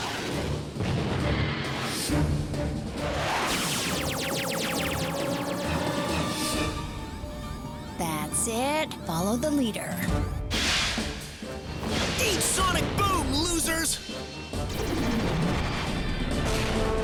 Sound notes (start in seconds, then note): 0.7 rockets blast; 0.7 explosion; 5.3 lasers fire rapidly; 8.2 digital beeping